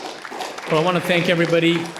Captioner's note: audience applauding